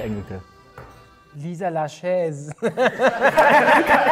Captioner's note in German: lachend; Lachen